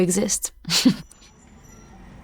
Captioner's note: laughs